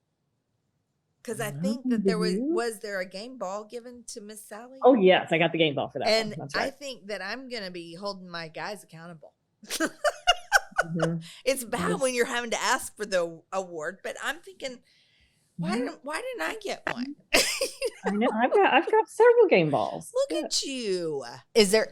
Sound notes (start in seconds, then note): 9.7 laughs; 15.6 laughs